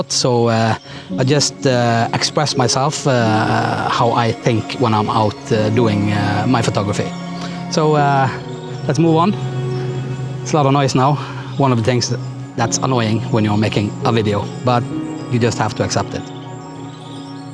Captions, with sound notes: so I just express myself how I think when I'm out doing my photography. So, let's move on. It's a lot of noise now ( airplane ) One of the things that's annoying when you're making a video, but you just have to accept it.